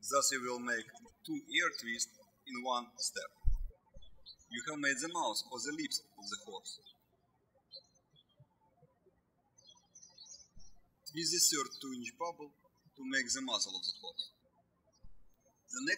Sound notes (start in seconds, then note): 7.8 birds chirping